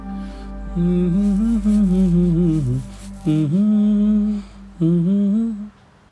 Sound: humming

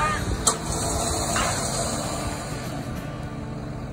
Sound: sound of winch winding in

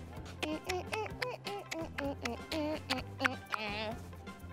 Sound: beat boxing

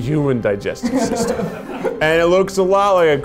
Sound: all laugh

